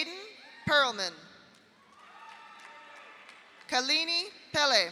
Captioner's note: audience cheers; audience applauds